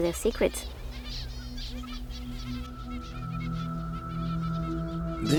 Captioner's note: birds warble